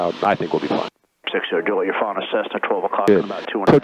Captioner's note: radio murmuring